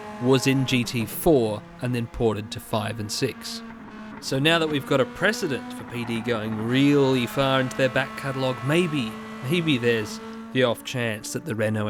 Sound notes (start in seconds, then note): none